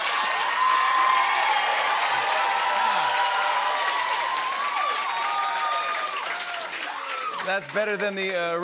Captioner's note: cheers and applause; cheers and applause continue